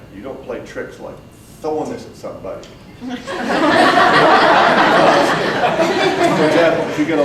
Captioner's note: audience breaks out in laughter